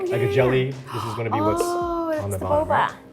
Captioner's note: Arden gasps